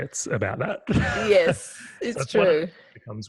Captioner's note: laughing